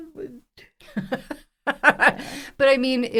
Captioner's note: laughs